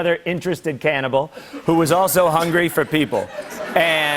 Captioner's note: laughter